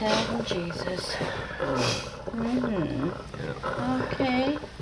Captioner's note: groans